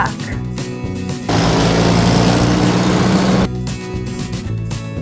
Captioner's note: cement Truck Engine Sound